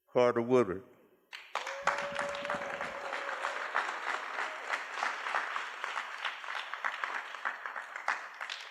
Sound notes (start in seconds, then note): 1.3 applause